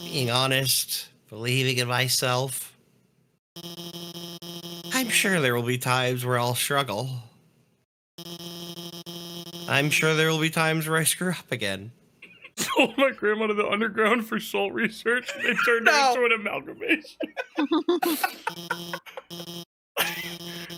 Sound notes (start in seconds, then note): 12.2 laughs; 16.8 all laughing